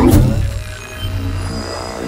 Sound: growling; dramatic music

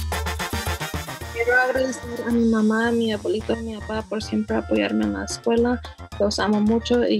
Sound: speaks in foreign language

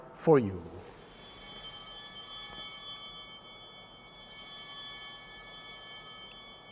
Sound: chimes ringing

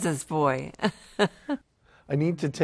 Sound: laughs

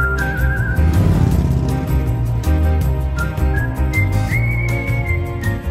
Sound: motorcycle revving

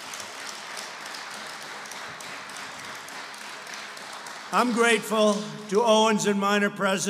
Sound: applause

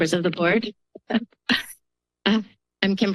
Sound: chuckles

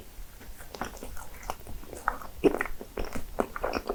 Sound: embarrassing gurgling sound

